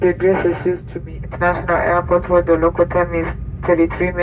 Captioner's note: announcement in English